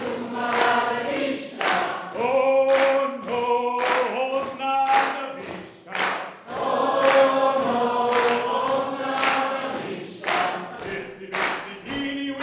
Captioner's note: call and response chanting between Audience